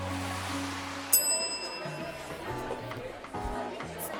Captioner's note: bell dinging; people chatting; jazz music playing